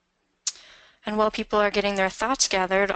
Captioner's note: voiceover